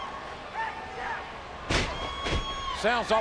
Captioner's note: audience cheering; body thuds